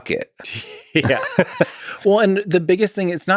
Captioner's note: Lex laughs